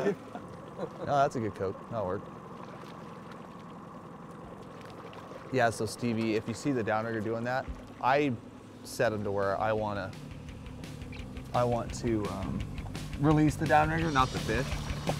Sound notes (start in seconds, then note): 0.3 boat engine idling; 2.1 fish splashing; 3.6 boat engine idling; 14.6 fish splashing